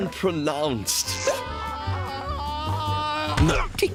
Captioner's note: screaming